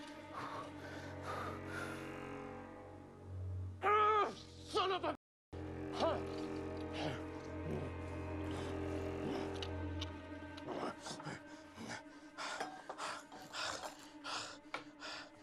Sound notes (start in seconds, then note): 1.1 exhales deeply; 6.1 panting